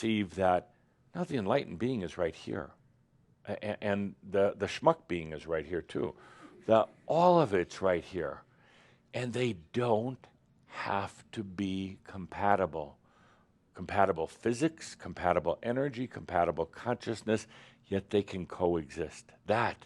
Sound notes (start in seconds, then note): none